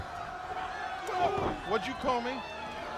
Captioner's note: crowd chatter